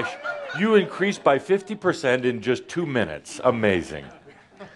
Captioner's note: laughter